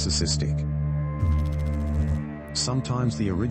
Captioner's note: electrical noise